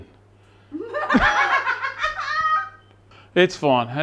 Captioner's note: laughing